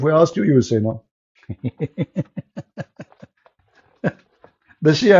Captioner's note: Ketawa